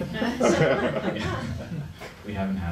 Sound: laughing

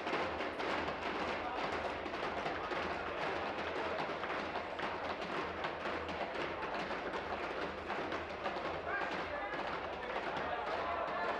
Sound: tapping

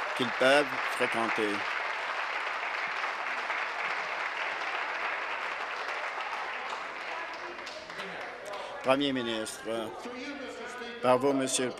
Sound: applause

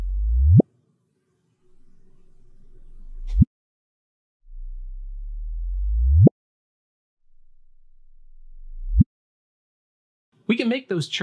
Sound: low frequency blip sounds

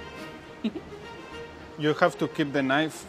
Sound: laughs

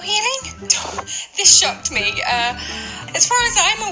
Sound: scoffs

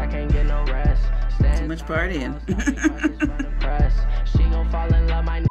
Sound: chuckles

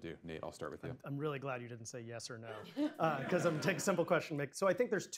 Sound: laughter

